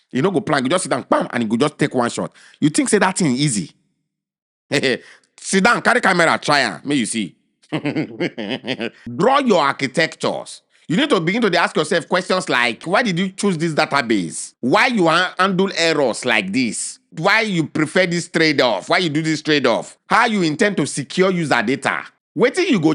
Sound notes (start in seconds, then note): 4.7 chuckles